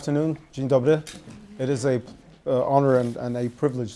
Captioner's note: speaking in foreign language